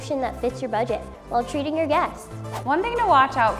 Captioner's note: swooshing